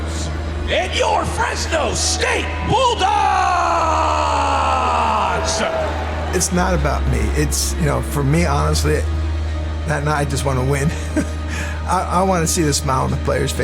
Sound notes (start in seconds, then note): 5.1 crowd cheers and applauds; 10.8 laughs